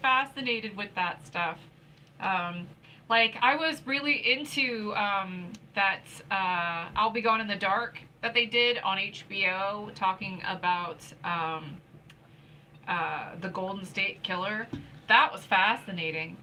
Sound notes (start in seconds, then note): none